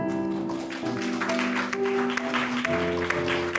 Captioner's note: applause